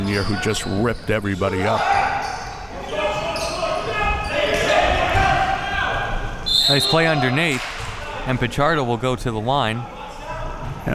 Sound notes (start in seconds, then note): 1.5 audience chattering and yelling